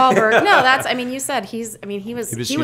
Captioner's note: laughter